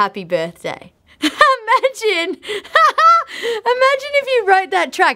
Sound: laughing

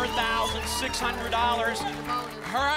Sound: applause

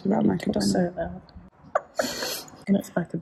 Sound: laughs

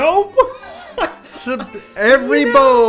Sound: chuckle

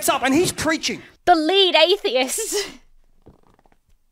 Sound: laughs

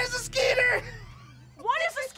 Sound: laughing

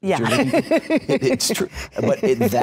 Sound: laughs

